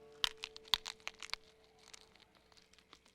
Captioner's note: crunching